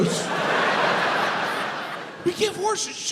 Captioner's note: crowd laughs